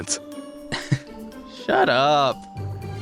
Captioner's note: light chuckle